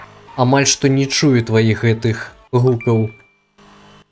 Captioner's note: message sound